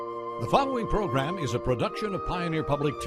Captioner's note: voiceover